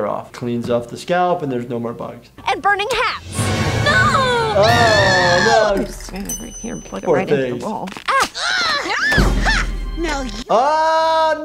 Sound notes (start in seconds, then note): 4.5 screams; 7.8 rubber smacks; 8.0 groans